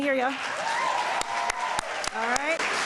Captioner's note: applause